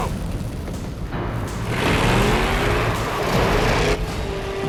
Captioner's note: engine Revs